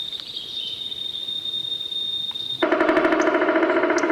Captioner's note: birds chirping; drum banging